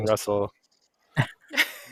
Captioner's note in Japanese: 笑い